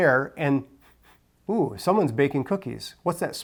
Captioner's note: sniffs